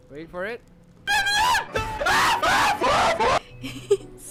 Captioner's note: lots of screaming; laughs